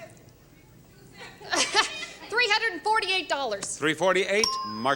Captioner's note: chuckles